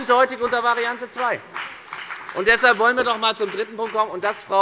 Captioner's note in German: Beifall bei der FDP